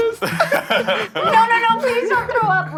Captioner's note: chefs laughing